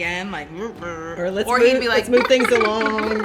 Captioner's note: sad toot